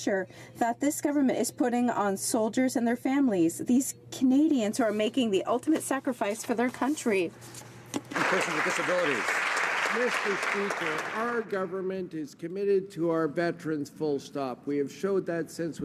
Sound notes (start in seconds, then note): 10.8 some Applause